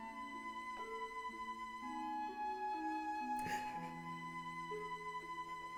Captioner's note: Sue sobbing; pleasant music continues